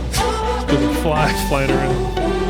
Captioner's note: laughs